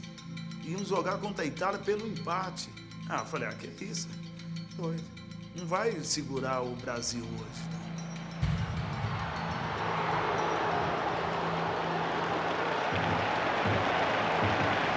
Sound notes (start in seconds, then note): 8.4 crowd booing